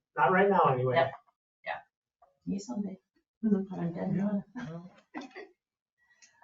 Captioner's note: chuckles